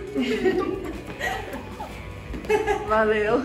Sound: laughs

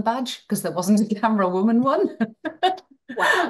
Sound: laughs

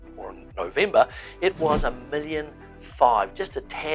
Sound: air whooshing

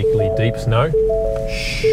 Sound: car beeps

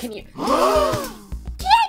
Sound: gasping

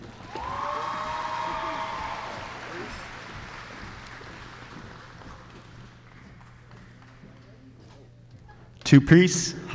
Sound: applause

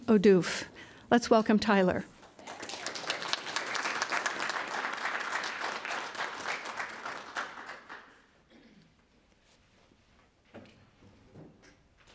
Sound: applause

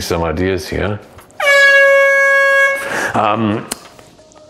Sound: horn blares

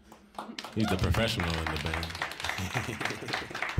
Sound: chuckling

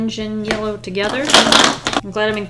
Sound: markers clatter on desk

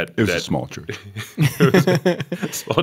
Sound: chuckle

